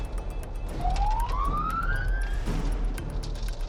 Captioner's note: siren wailing